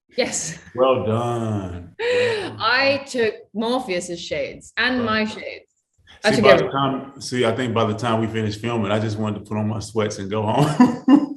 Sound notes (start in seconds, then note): 2.0 Jessica laughing